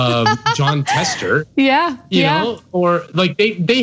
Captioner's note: laugh